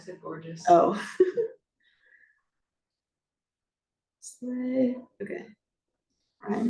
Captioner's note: laughs